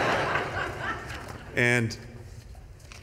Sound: laughter

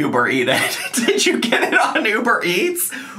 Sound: laughing

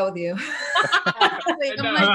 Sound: all laugh

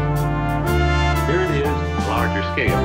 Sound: off screen television

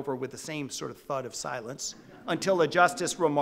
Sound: audience laughing

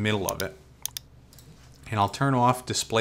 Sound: mouse clicks

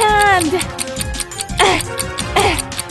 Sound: ticking

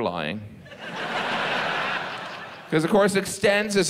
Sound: audience laughs

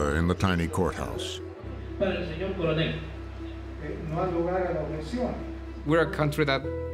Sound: speaking Spanish

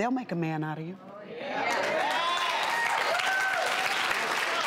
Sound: audience applauds

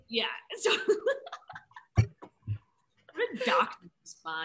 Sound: laughs

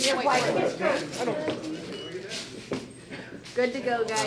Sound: people chatter

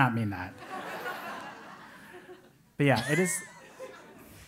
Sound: laugh

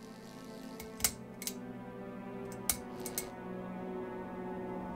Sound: electricity buzzing; light fixture clicking

